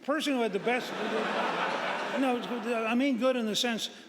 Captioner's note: audience laughing